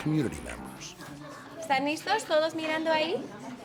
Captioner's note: speaking Spanish